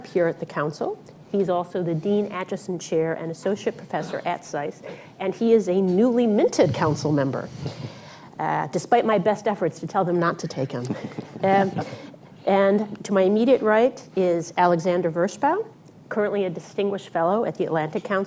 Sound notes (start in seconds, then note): 11.8 laughter